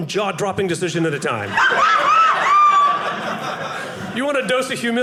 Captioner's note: audience laughing